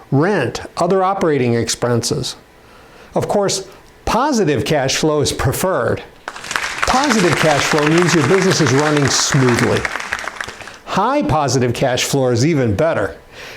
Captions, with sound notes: rent, other operating expenses. Of course, positive cash flow is preferred. (applause) Positive cash flow means your business is running smoothly. High, positive cash flow is even better.